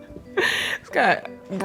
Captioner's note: laughing